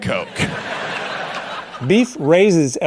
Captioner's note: audience laughing